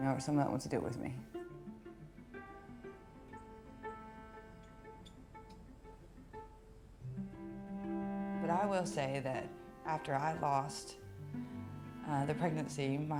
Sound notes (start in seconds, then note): 4.0 birds chirping; 4.0 cheerful music continues